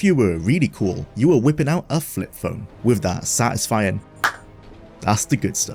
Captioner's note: clap